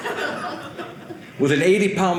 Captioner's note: audience laughing